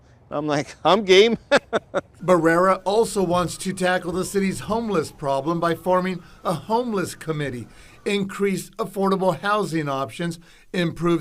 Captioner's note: laughs